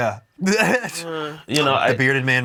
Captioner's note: laughs